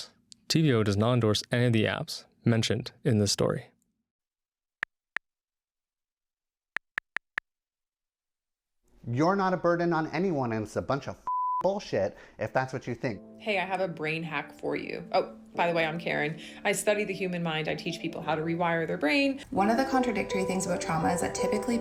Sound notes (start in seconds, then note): 4.9 clicking